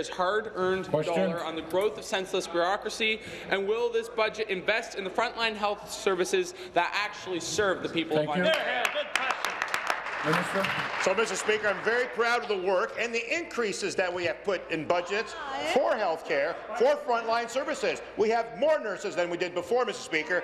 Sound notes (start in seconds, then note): 12.6 applause